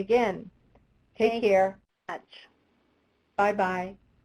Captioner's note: voiceover